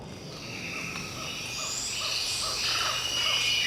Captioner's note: jungle animals